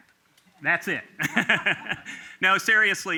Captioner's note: laughter